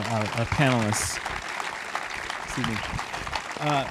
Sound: audience applauding

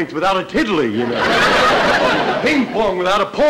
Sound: audience laughter

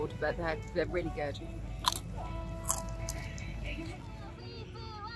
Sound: crunch, crunch

